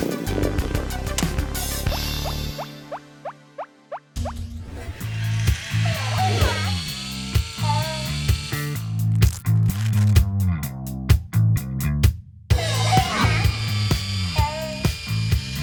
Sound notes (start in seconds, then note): 1.5 ears squeaking; 4.7 whirring; 5.4 toy sounds; 12.6 toy sounds